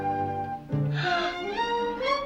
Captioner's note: gasps